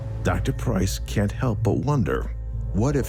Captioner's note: people chatting